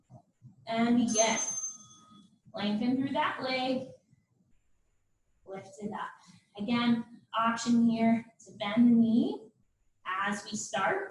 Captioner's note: ding